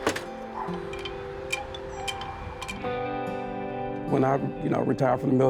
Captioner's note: bright music continues; door creaks; wind chime clacking